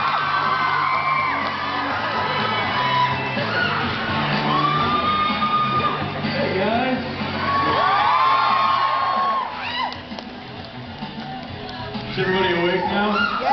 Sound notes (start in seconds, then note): 0.0 cheers, applauds; 0.0 cheers; 7.3 cheers